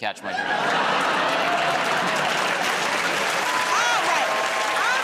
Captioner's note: laughter, applause